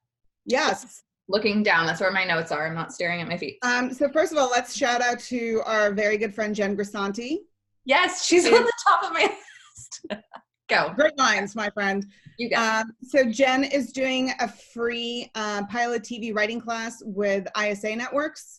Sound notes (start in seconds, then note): 9.2 laughs